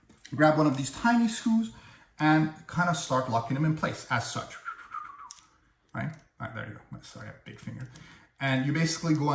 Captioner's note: whistling